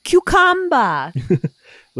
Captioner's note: chuckles